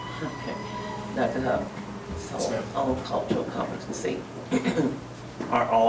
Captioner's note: clears throat